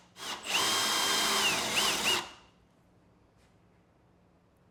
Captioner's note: drill continues to whir